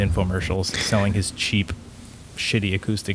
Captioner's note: chuckles